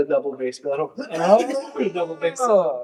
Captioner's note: laughing